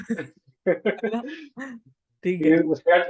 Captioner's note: laughs